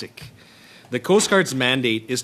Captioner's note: speaking French